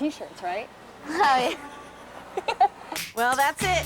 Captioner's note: laughing